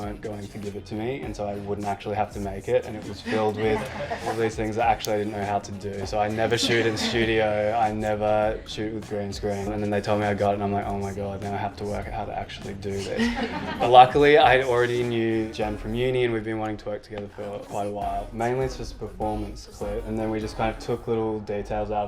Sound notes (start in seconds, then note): 13.0 group laughs